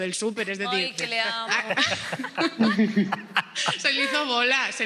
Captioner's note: laughter